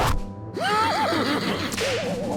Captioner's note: laughs